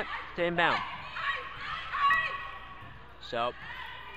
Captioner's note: crowd cheers